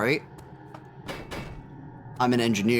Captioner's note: loud banging